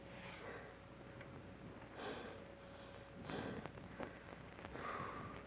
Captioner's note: Trask breathes heavily